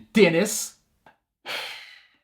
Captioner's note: sigh